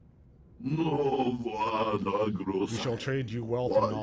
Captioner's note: speaking foreign language